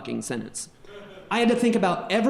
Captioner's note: audience member laughing